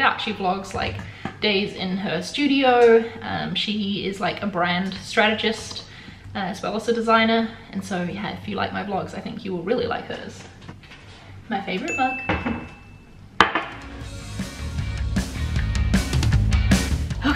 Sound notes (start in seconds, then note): 11.8 dinging; 13.7 upbeat music